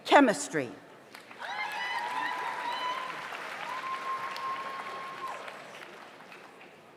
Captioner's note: audience applauds; audience cheers